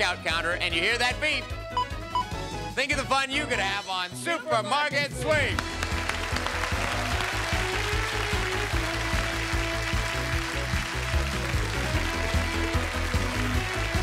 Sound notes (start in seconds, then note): 5.5 cheers and applause; 10.3 upbeat music